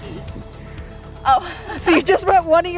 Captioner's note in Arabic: يضحك